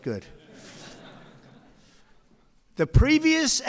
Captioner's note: laughter